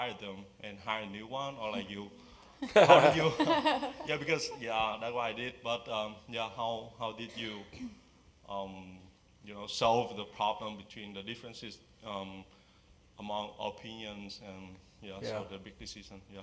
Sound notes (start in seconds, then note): 2.6 laugh